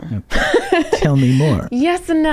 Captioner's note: laughing